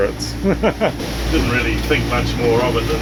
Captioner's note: laughs